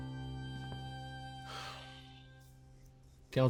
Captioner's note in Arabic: تنهدات